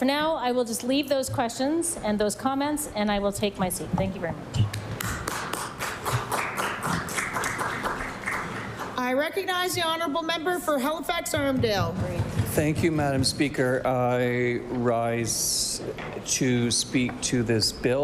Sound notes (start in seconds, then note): 9.0 applause